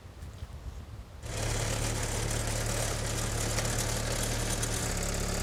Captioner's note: machine whirring